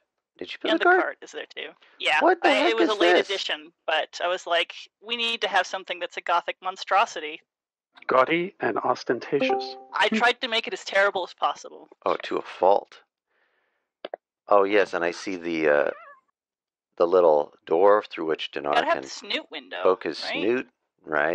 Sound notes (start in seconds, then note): 9.4 Discord "ping"